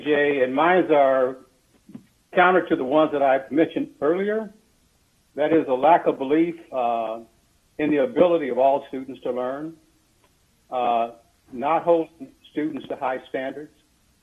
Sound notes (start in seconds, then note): none